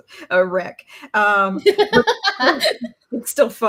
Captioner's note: laughs loudly